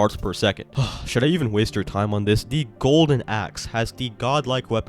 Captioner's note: sigh